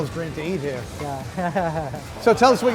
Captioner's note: laughs